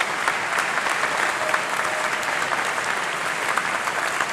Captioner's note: applause